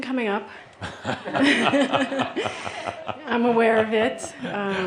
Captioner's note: they chuckle